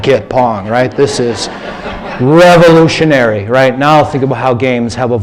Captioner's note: laughter